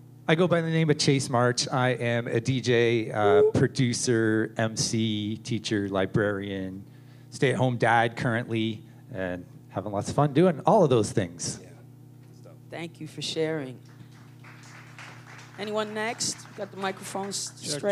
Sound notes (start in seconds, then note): 13.8 applause